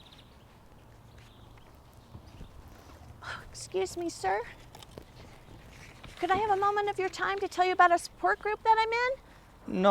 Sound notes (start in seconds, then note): 1.3 birds faintly chirping